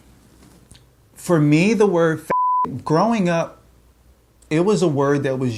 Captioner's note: beep